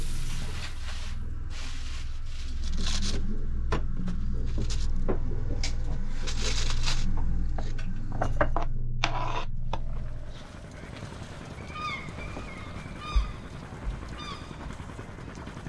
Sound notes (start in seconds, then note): 8.9 spoon scraping; 12.6 seagulls calling